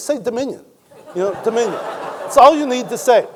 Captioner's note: audience laughing